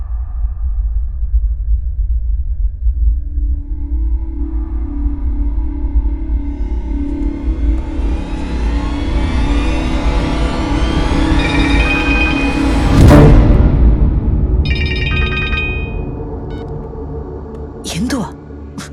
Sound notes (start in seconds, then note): 14.6 mobile rings